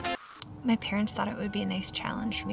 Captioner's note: static crackles